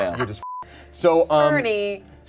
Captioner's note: beep